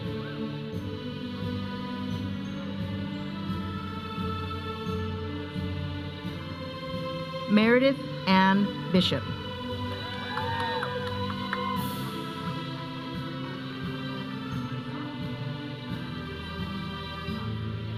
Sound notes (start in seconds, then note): 9.9 audience cheering; 12.4 audience chattering; 12.4 processional music